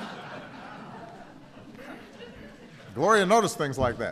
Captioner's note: laughter